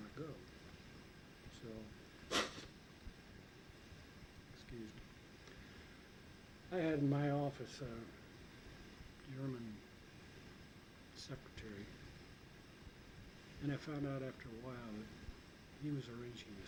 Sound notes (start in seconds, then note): 2.2 sneezes